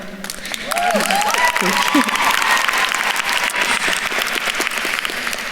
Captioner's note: audience cheering and applauding